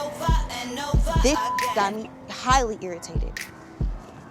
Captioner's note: beep